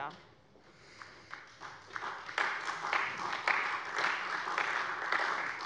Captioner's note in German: Beifall bei der CDU